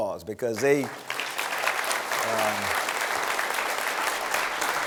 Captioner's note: applause